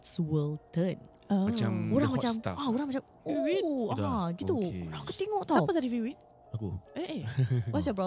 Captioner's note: whistles in the background